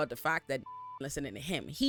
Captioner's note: beep